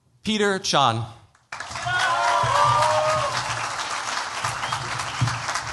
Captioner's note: cheers, applause